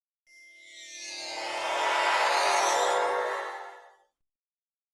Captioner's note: teleporter noise